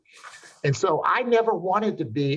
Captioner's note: chuckling